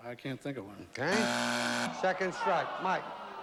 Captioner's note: buzzer